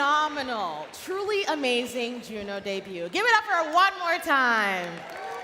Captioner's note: cheering and Applause